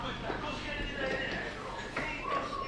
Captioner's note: radio chatter in Greek